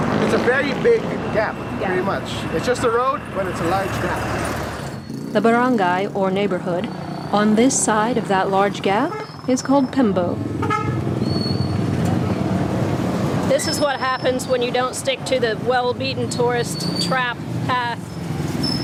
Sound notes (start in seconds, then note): 10.5 car horns honking